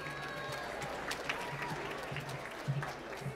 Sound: applause

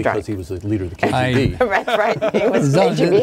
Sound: laughing

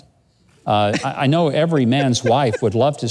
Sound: laughs

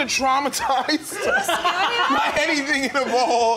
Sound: laughing

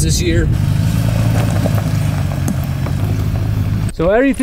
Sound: car engine revving

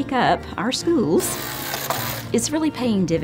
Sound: motor whirring

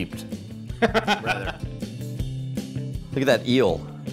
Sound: laughing

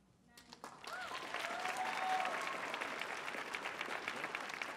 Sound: audience cheering

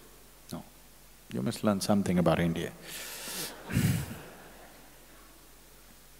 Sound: laughter

